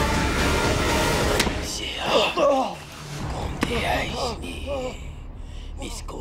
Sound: speaking in foreign language

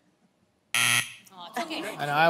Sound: buzzer sounds

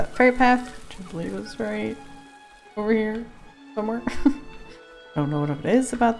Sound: unsure laugh

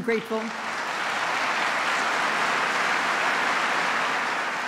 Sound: applause

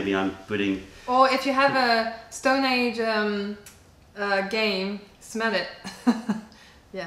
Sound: laughter

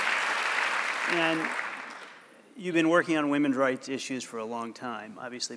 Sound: applause

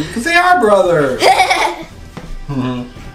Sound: laughing

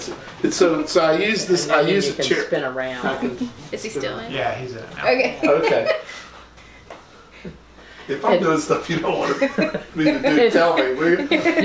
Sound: laughter

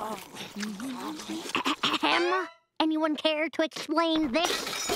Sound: clearing throat

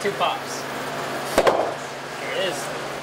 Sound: pop, pop

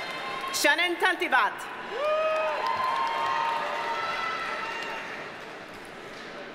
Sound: audience cheers and applauds

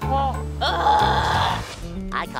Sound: groaning

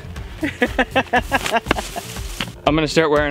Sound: laughing

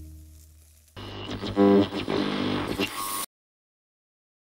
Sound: static crackling

